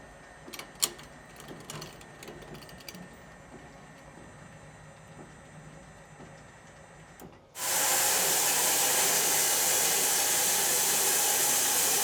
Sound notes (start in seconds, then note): 7.6 sawmill sawing